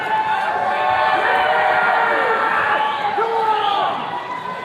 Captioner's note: attendees cheering